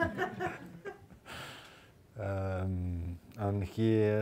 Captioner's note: audience laughing